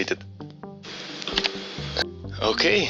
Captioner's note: click